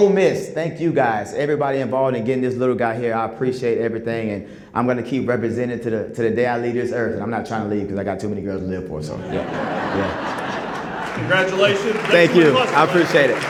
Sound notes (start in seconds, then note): 9.2 laughter, applause